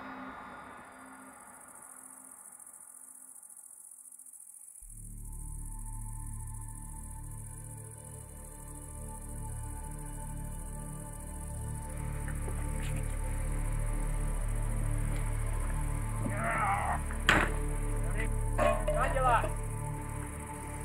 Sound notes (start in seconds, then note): 0.1 forest din; 4.2 eerie music; 17.9 indistinct shouting